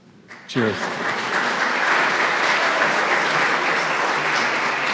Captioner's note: audience clapping